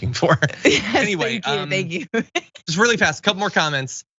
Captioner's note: laugh